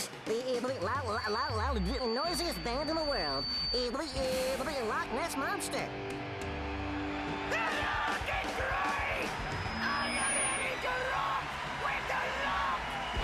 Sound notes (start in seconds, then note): 6.2 fans cheering